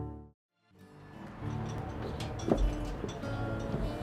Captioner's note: wind whistling